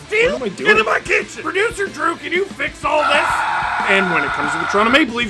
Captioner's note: screaming